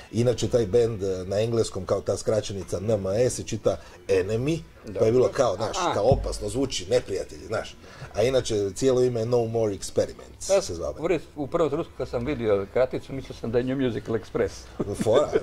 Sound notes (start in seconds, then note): 14.7 laughs